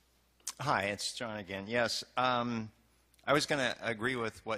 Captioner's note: voiceover